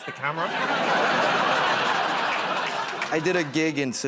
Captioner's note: laughter